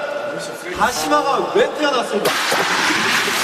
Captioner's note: rubbing